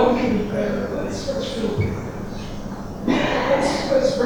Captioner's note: coughing drowns out speaker